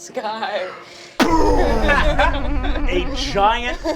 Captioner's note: resonating boom